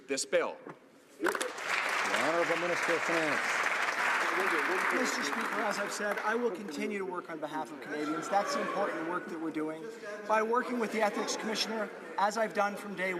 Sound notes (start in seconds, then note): 4.1 some Applause